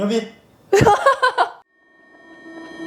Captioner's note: laughing